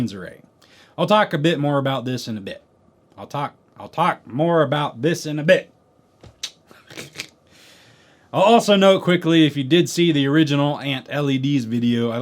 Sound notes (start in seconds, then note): 6.7 laugh